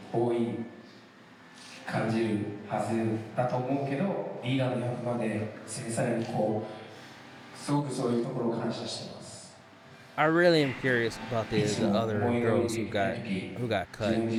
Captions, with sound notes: (speaking foreign language) I really am curious about these other girls who got cut.